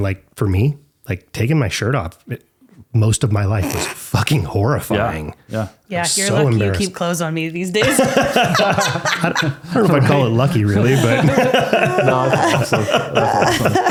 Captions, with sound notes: And like, for me, like taking my shirt off most of my life was fucking horrifying. - Yeah. - I'm so embarrassed. - You're lucky you keep clothes on me these days. (laughing) - I don't know if I call it lucky really, but. (laughing)